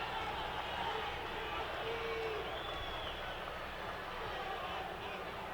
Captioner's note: audience cheering